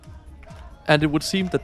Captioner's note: applause